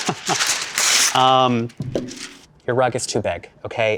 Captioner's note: paper tearing